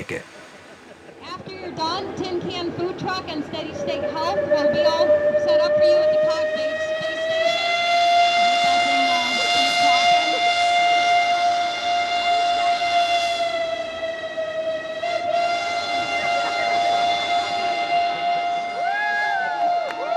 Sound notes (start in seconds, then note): 7.1 TRAIN WHISTLE... cheering, applause